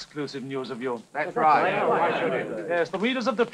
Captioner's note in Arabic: يتحدث الناس بصوت خافت